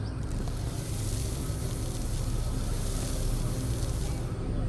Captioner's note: sand grains rattling